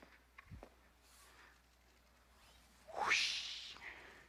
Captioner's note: whooshing